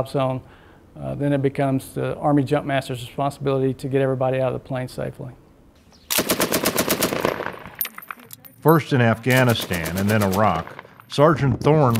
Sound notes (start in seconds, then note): 6.1 machine gun fire